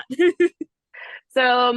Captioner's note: laughs